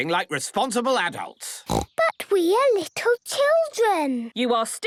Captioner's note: snorting